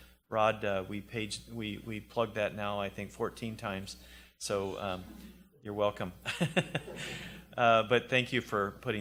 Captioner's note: laughs